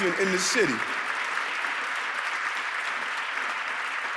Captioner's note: audience clapping